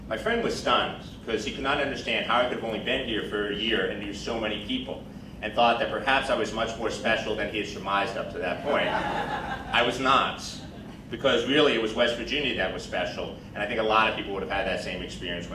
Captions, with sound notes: My friend was stunned, cause he could not understand how I could've only been here for a year and knew so many people. And thought that perhaps I was much more special than he had surmised up to that point. (crowd laughing) I was not. Because really it was West Virginia that was special and I think a lot people would've had that same experience